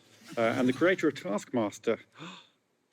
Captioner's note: gasps